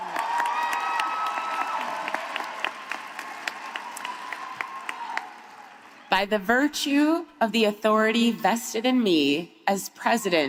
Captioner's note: cheering